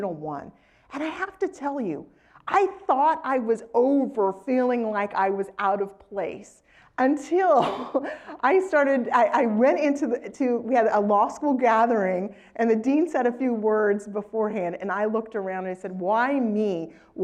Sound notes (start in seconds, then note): 7.6 laugh